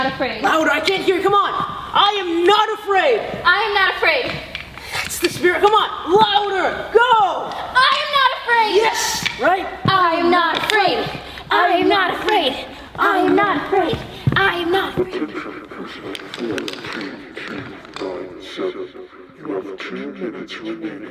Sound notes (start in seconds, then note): 10.3 chanting